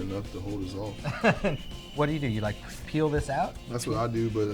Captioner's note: laughter